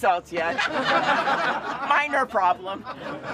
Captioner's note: laughter